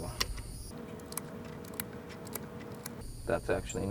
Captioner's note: fast clicking